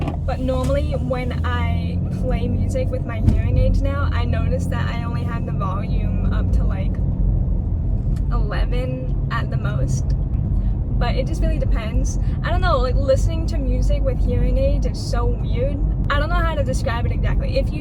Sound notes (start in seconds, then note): none